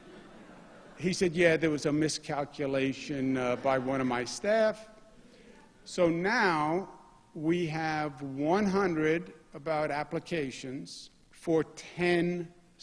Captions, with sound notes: [ LAUGHTER ] YOU'RE THE ECONOMIC GENIUS, GURU, CADILLAC. HE SAID YES, THERE WAS A MISCALCULATION BY ONE OF MY